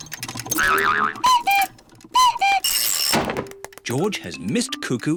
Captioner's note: clock cuckoos